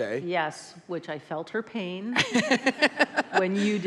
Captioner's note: laughs